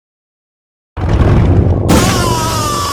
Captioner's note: fiend rider's honk